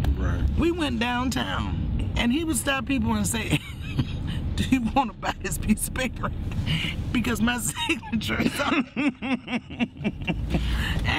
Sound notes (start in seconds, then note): 4.0 laughs; 8.4 both laughing